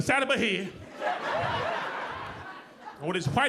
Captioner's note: audience laughing